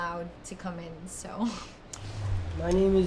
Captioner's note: laughs